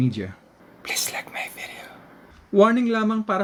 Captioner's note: whisper